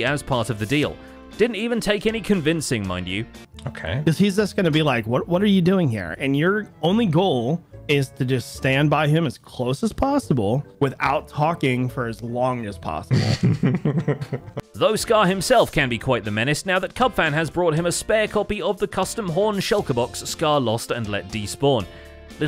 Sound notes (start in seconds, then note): 13.1 laughs